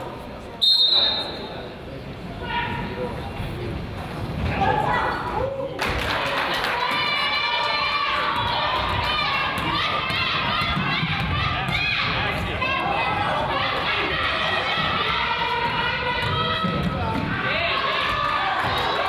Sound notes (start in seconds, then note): 0.6 whistle blows; 5.7 crowd applauds and cheers